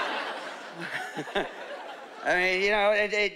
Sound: chuckling

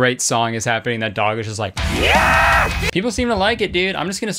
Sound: screaming

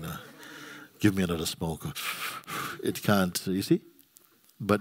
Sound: inhales, exhales

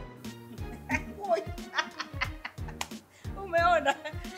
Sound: laughing

